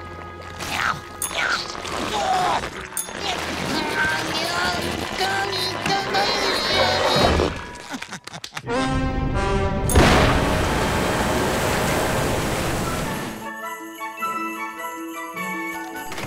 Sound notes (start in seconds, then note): 1.2 grunting; 7.4 laughing